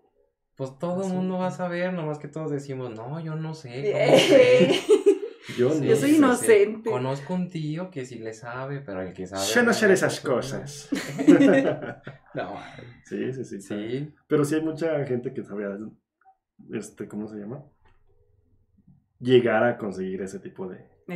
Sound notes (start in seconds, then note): 3.8 laughing & agreeing; 10.9 laughing